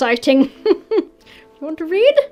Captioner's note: chuckles